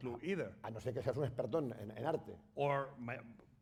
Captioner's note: speaking spanish